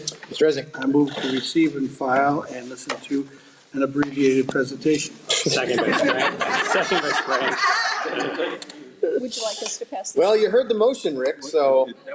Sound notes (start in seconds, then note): 5.4 members laughing